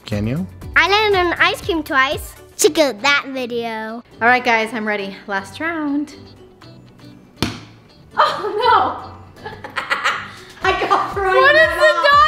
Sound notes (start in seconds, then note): 9.4 laughing